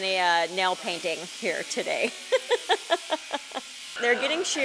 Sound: laughs

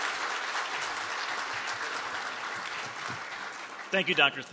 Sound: applause

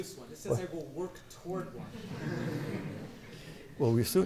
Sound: laughter

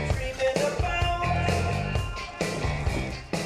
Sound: echoing

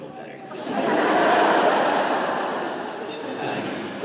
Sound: laughter

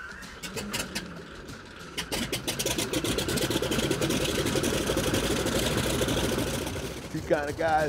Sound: engine starting

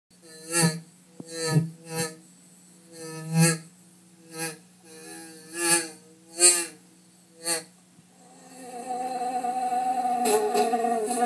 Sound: fly buzzing

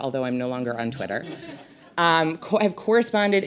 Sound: audience laughs

